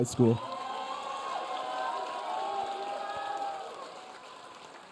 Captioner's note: audience cheering